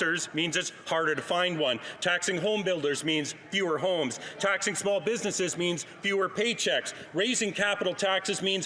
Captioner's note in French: voix de l'interprète